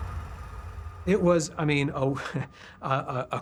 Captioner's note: chuckles